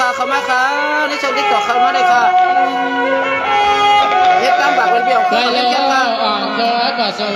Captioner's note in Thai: ปรบมือ